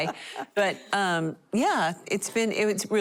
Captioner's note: laughter